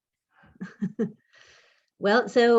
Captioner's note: laughs